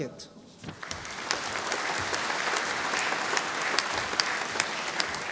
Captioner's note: audience applauding